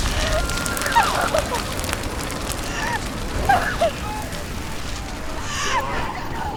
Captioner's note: sobbing